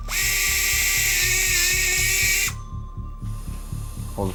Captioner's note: tool whirring